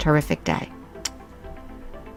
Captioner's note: kiss